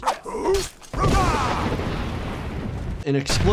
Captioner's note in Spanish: el personaje grita; truenos crepitan; el jugador grita